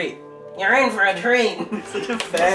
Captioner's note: voice mimics